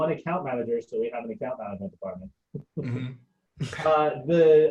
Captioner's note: chuckling